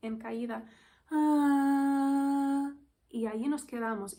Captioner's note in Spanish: suspiro y tono